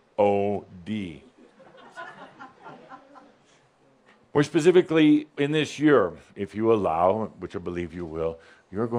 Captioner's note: a couple of giggles